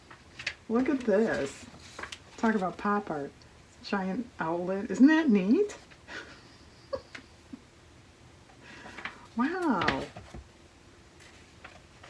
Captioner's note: laughs